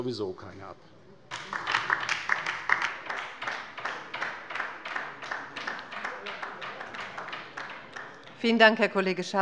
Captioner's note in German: Beifall bei der LINKEN